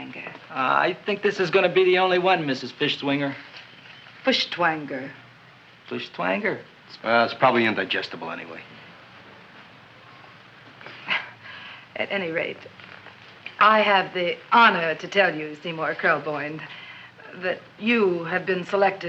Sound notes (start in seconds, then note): 10.9 chuckles